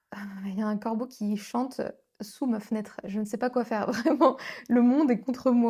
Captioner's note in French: rires